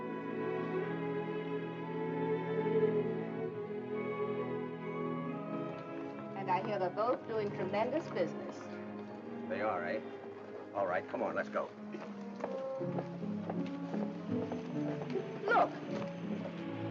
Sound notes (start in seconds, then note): 0.2 upbeat music; 11.4 footsteps; 13.8 upbeat music